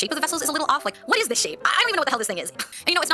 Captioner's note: scoffs